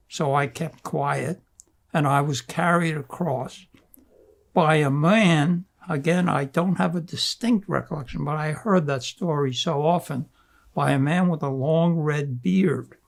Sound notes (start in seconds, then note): none